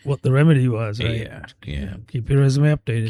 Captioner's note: uh